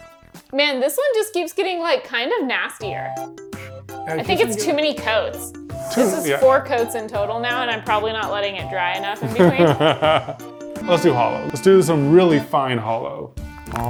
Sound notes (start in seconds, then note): 9.2 laughing